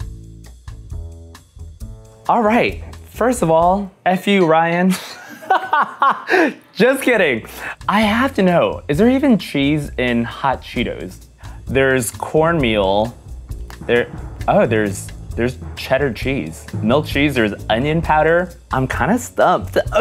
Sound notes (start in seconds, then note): 0.0 upbeat music; 5.2 laughs